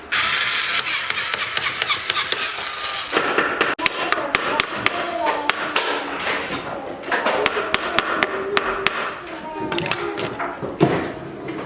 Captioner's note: toy drill sounds